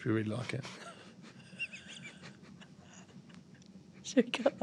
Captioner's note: laughing